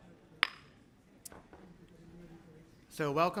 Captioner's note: gavel bangs lightly